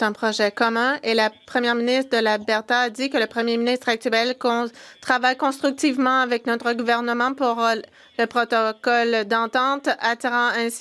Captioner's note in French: voix de l'interprète